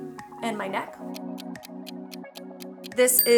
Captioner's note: clock ticking